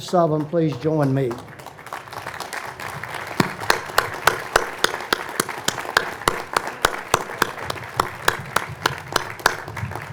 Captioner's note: applause